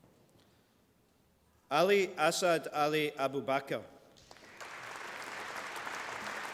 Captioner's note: applause